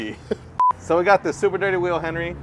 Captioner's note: scene beeps